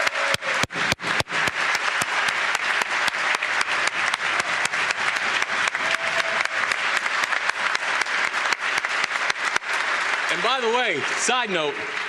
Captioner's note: applause